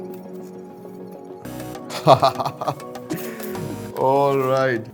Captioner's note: laughs